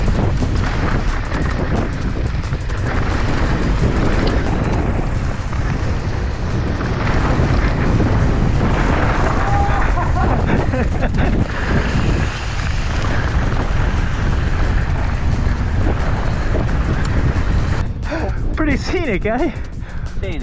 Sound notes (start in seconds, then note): 4.2 wind whooshing; 9.4 people laughing